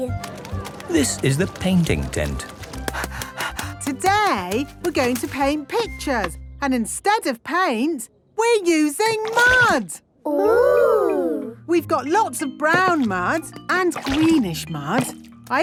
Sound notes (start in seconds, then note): 2.8 panting